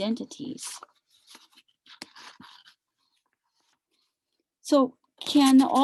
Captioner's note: papers rumbling